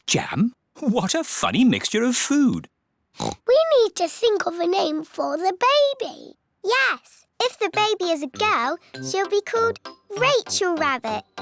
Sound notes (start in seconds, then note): 3.2 oinks